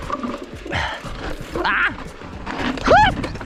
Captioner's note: pants; screams and laughs